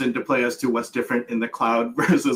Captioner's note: laughs